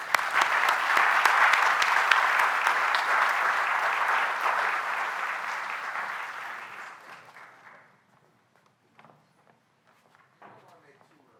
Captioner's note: applause